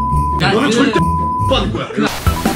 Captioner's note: beep